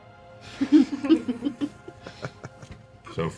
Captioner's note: laughter